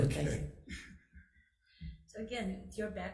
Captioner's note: chuckling